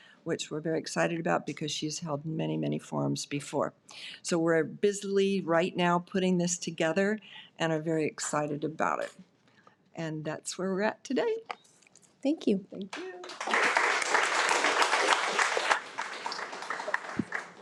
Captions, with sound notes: which we're very excited about because she's held many, many forms before. So we're busily right now, putting this together and are very excited about it. And that's where we're at today. - Thank you. - Thank you. (audience applauding)